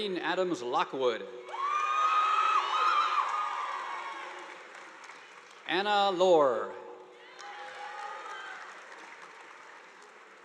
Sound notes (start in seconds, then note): 1.5 students cheering; 1.5 audience applauding; 7.2 audience applauding